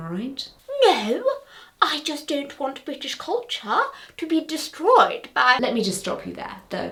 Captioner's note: offended gasp